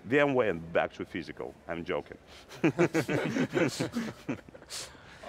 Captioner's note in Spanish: risas